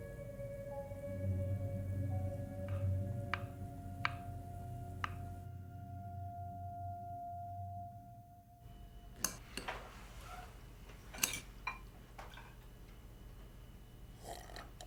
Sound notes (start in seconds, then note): 5.8 music fades; 11.1 cutlery clinks